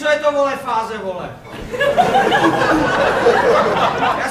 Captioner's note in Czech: Smích